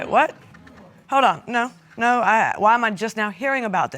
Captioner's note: stammering